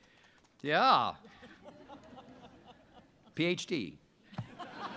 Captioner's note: audience laughs